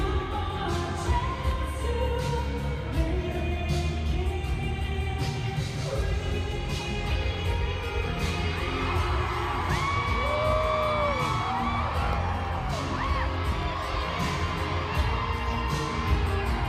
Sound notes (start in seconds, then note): 7.8 crowd cheering; 8.8 soulful guitar music